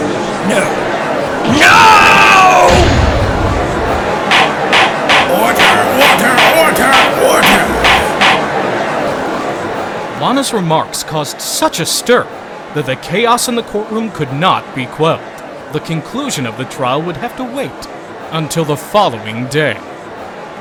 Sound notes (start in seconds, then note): 3.4 gallery in uproar, gavel slamming repeatedly!; 8.0 gavel slamming repeatedly!